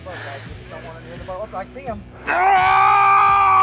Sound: screaming

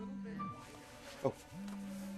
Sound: cell phone rings

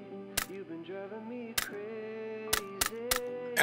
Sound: stapling sounds

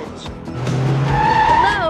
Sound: car tires squeal

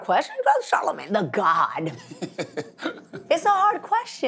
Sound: Charlamagne Tha God laughs

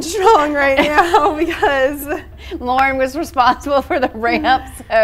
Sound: laughs

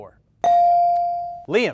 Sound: ding

